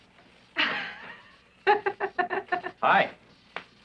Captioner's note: giggling